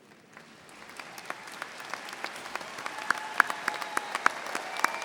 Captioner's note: graduates applauding and cheering